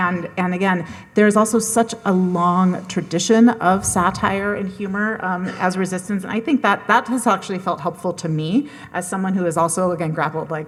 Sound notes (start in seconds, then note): none